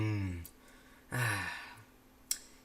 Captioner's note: sigh; lip smack